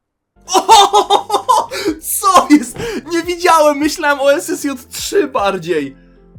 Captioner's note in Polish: śmiech